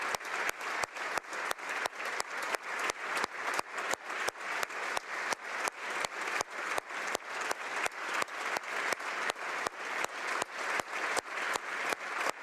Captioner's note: applause